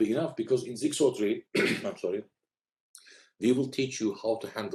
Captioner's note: clears throat